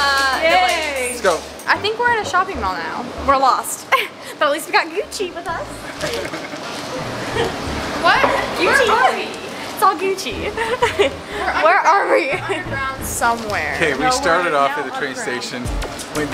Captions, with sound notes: - Uh, no thanks. - I think we're at a shopping mall now. - We're lost, but at least we got Gucci with us. (laughing) What? It's all Gucci. Where are we? - Somewhere. - We started off at a train station,